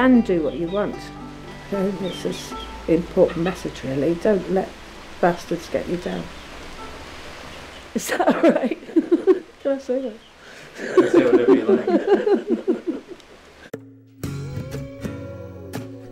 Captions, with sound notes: do what you want. This is an important message really. Don't let bastards get you down. Is that alright? *laughter* Can I say that? You can say whatever you'd like.